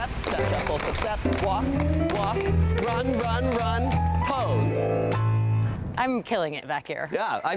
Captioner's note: tapping